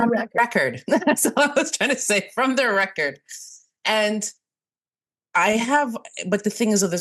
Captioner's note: laughs